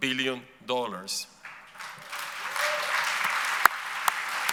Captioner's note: audience applauds